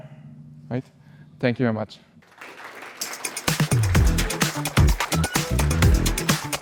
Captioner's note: applause